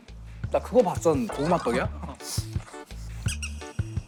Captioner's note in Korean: 꺄르르